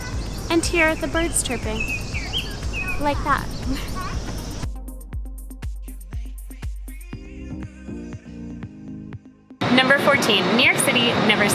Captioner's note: birds chirping in background